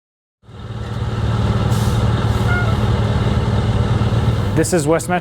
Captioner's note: truck engine running